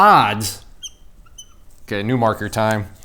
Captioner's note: markers squeaks